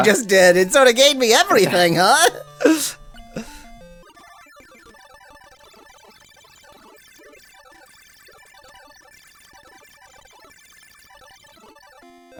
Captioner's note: awkward silence